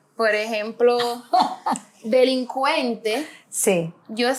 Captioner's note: laughs